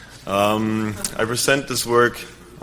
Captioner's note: crowd laughing